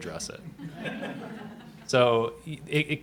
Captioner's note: laughter